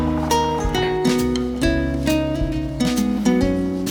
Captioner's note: glazing syrup